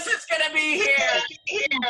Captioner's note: chatter